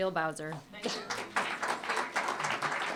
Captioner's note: applause